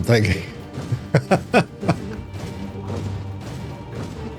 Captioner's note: laughter